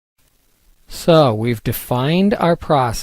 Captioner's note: voiceover